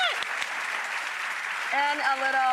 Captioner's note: applause